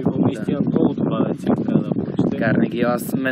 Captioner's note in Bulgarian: чува се вятър